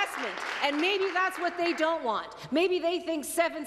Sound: applause

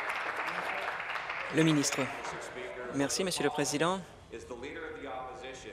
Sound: applause

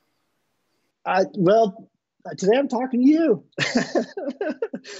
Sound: laughing

